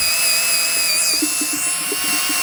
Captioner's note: drill whirring